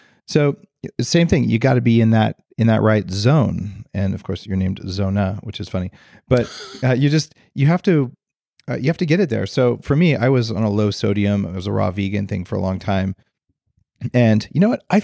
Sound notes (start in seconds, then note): 6.4 chuckles